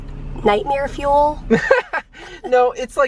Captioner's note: chuckling